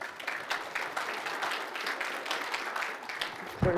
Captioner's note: applause